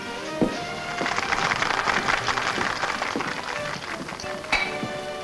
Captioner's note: patrons clap